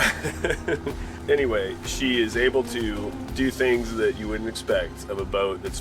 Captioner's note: laughs